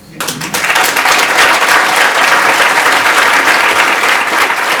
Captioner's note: audience applauds